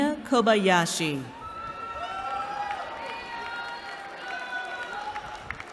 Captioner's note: cheering